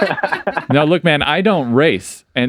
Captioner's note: laughing